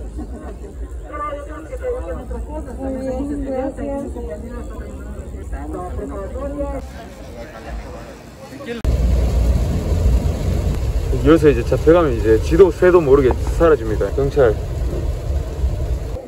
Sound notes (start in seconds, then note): 8.8 suddenly, it rains hard